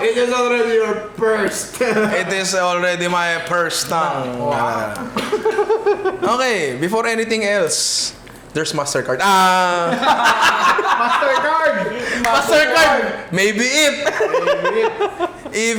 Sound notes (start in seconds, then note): 4.1 laughs; 9.7 laughter; 14.9 laughs